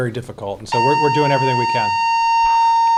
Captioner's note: fire alarm